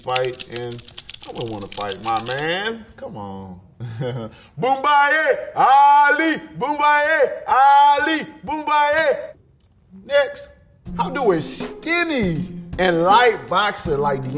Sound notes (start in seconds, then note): 3.8 laughing